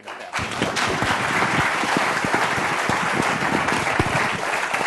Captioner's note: applause